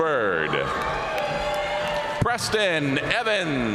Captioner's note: audience cheering and applauding